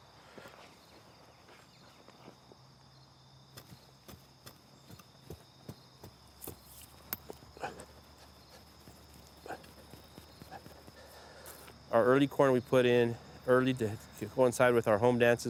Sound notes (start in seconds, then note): 3.3 digging